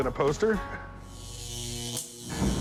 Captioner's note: electricity zapping